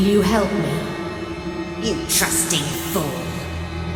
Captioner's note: strange voice